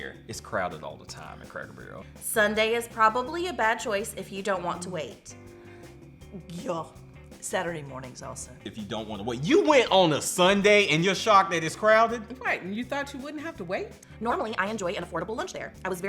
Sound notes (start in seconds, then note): none